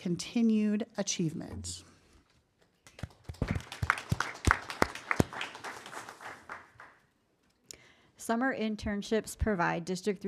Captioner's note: applause